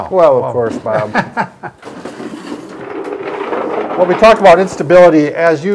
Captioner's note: laughs